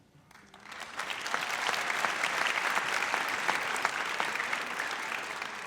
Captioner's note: audience applauds